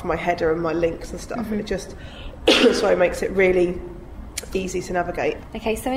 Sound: coughs

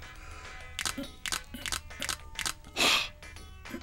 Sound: tap tap

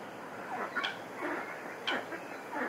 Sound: ducks quacking

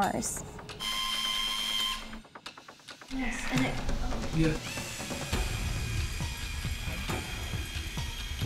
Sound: rover sounds

